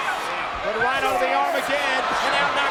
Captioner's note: presenter speaking faintly off mic